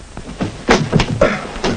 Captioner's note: thud!